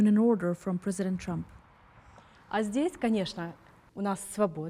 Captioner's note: speaking Russian